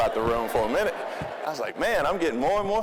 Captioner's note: audience laughing